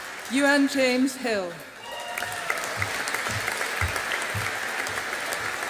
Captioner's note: audience applauding